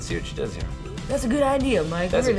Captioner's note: imitating sportscaster